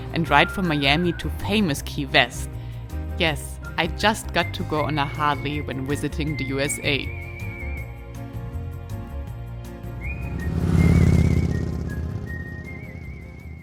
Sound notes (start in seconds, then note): 7.5 lively music; 7.5 motorbike roaring